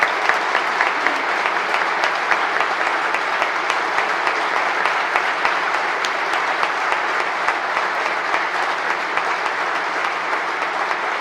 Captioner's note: applause